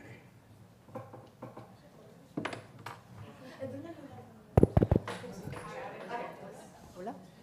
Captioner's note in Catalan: soroll del micròfon